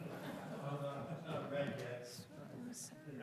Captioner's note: group laughing